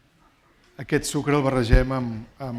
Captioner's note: speaking spanish